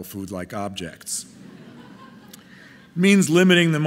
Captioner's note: audience laughing